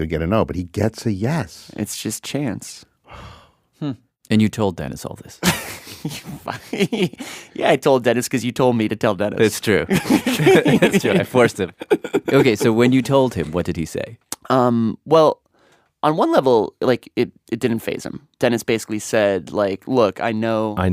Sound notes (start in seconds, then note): 5.4 laughs; 9.8 laughs